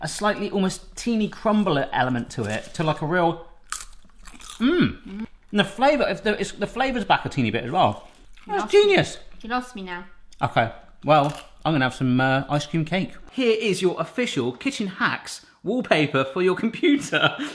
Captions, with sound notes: a slightly almost teeny crumbly element to it, to like a real (crunch) and the flavour is back a teeny bit as well. It's genius! - You can ask me now. - Okay, well, I'm going to have some ice cream cake. Here is your official kitchen hacks wallpaper for your computer.